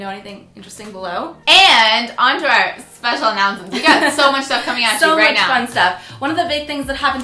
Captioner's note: laughs